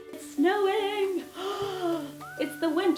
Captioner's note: gasps